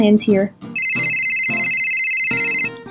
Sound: phone rings

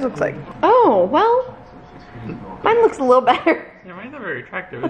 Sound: laughing

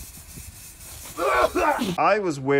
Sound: coughing

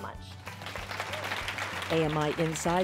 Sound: applause

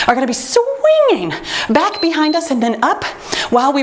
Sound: timer beeps

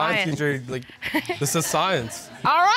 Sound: chuckles

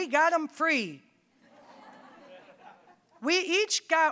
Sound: audience laughing

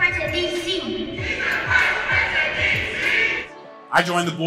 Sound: crowd

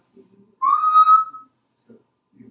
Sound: whistling

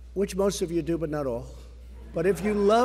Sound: laughter

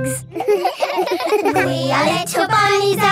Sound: all giggling

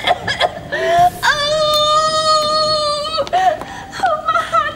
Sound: groans

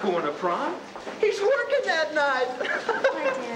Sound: laughing

